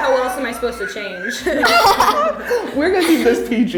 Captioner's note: laughing